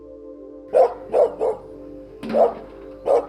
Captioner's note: dog barks